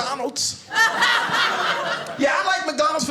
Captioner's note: audience laughing